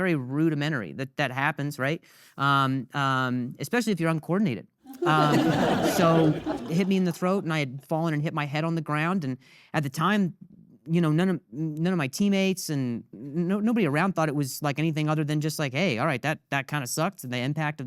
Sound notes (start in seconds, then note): 4.9 audience laughing